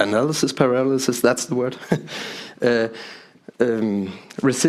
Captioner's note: chuckles